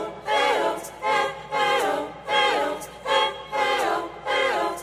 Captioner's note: chanting